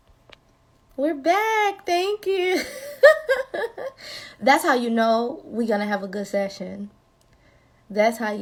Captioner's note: laughing